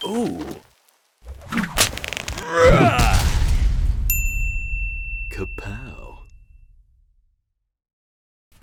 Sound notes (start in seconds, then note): 2.2 stone slamming; 2.6 man yelling; 4.1 bell dinging